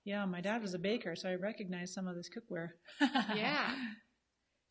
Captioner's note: laughs